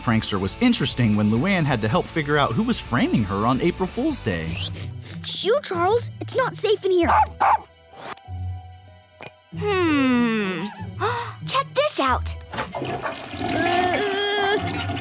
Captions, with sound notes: was interesting when Luan had to help figure out who was framing her on April Fools' Day. Shoo Charles. It's not safe in here. [barking] Hmm. [gasping] Check this out. [flushing] [groaning]